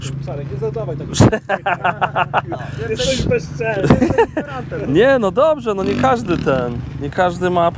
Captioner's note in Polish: śmiech